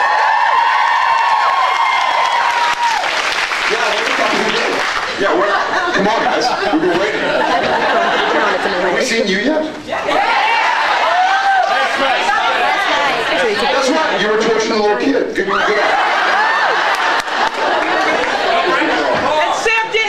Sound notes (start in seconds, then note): 0.0 cheers, screams, applauds; 4.7 applauds; 7.5 scattered laughs; 15.4 laughs